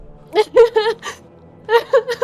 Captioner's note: Erin laughs